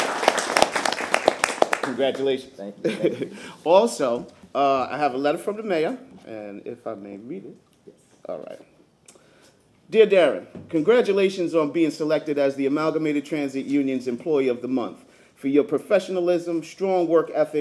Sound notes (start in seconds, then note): 0.0 applause